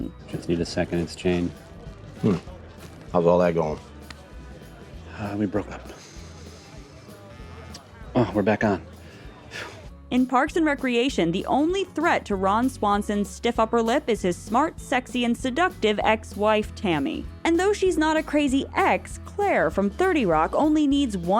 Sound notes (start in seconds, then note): 7.3 phone vibrates